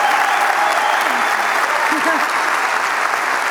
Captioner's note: applause, cheers; laughing